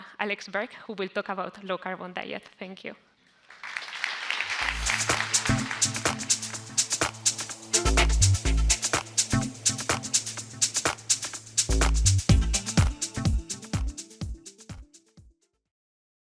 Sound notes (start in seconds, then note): 3.4 audience applauds; 5.3 upbeat music